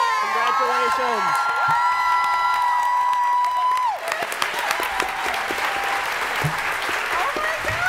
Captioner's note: cheering and applause